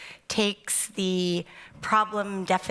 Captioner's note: none